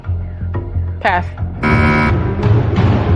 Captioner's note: buzzer sounds